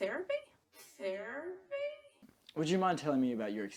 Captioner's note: slowed